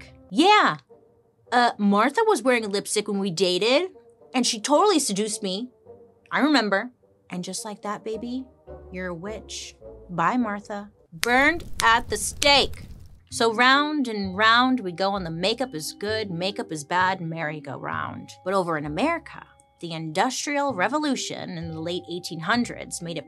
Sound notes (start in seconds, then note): 11.2 snaps; 11.5 fire roaring